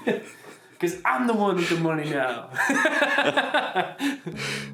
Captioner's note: laughs